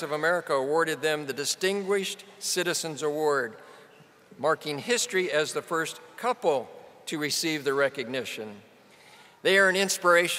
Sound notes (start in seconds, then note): none